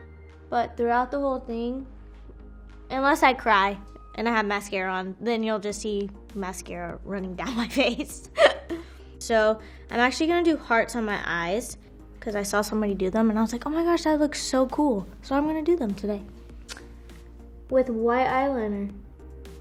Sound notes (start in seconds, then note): 8.3 laughs